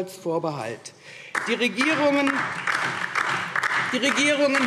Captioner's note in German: Beifall DIE LINKE